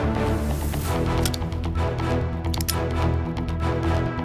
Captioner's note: gun clicks